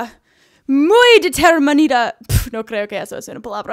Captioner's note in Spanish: puff